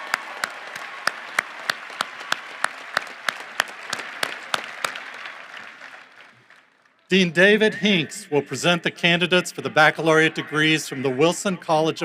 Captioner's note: applause